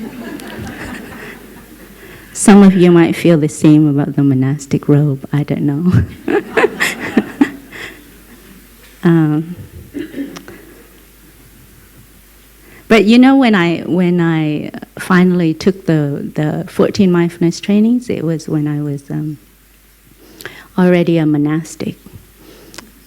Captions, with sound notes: (Laughter) Some of you may feel the same about the monastic's robe, I don't know. (Laughter) But you know, when I finally took the 14 mindfulness trainings, it was when I was already a monastic.